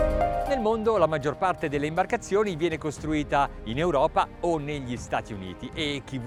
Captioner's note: speaking in foreign language